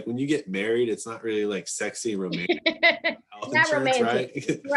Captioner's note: faintly speaking